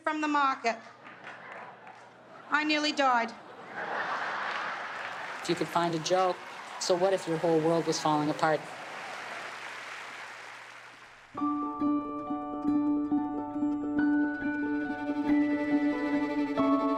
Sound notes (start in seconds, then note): 9.9 applause; 10.7 orchestra playing